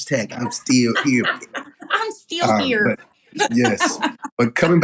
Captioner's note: laugh